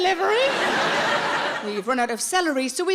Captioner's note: audience laughs